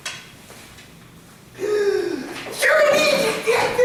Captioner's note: Francis gasps